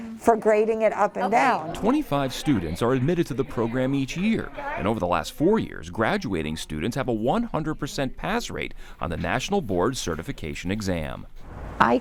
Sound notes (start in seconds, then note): 4.3 class chatters